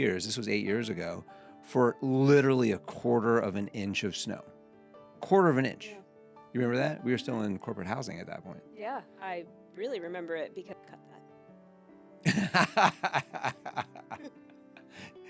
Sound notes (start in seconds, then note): 12.2 laughing